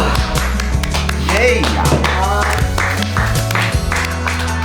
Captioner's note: clapping